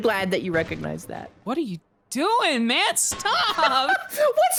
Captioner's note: both laugh